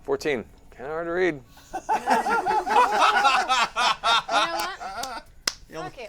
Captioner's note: laughter